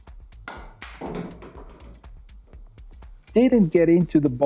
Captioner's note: balls clack